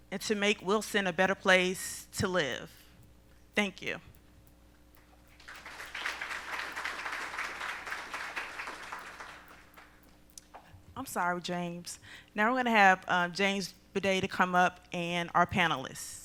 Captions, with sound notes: and to make Wilson a better place to live. Thank you. [ Applause ] I'm sorry, James. Now we're going to have James Budday to come up and our panelists.